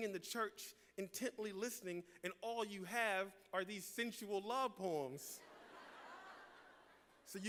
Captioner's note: laughter